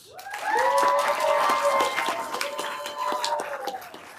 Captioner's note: everyone applauding